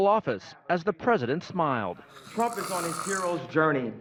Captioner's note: makes disgusted noise